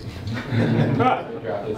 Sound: group laughing

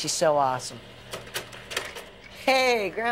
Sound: projector clicks

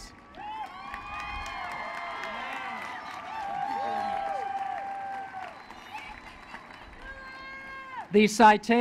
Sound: applause

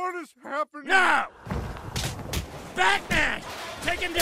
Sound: thuds and impacts

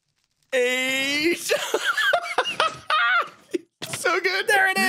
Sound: laughs

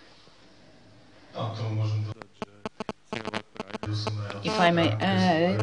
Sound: non-english

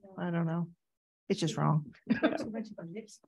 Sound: laughing

